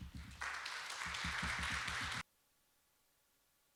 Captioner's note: applause